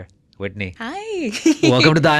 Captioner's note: chuckles